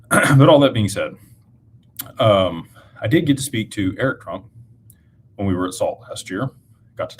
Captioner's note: clears throat